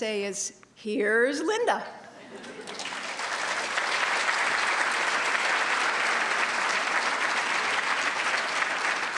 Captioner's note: applause